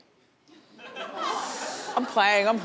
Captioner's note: laughs